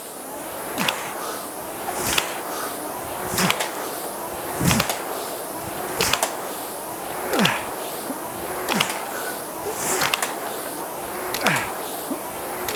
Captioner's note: grunting